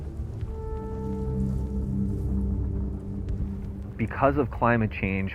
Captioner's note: fire crackling; somber music